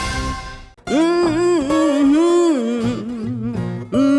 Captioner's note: humming